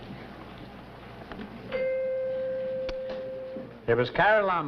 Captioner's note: bell rings